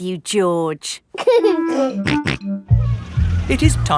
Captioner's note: giggling and snorting